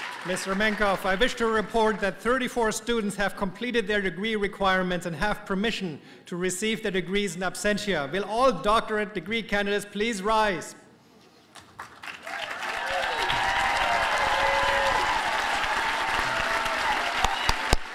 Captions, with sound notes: Mr. Mencoff, I wish to report that 34 students have completed their degree requirements and have permission to receive their degrees in absentia. Will all doctorate degree candidates please rise? [APPLAUSE AND CHEERS]